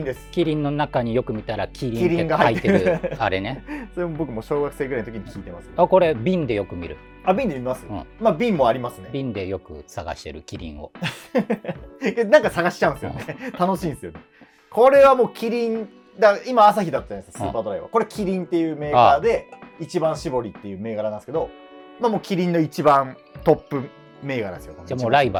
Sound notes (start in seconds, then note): 11.0 laughing